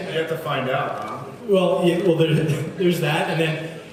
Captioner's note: laughs